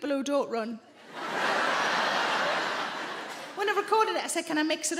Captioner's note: audience laughing